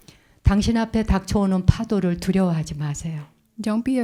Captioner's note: speaking in Korean